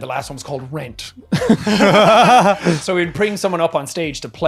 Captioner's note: laughing